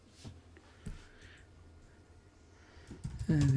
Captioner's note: silence